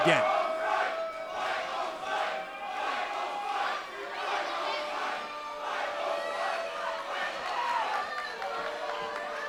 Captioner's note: fans chanting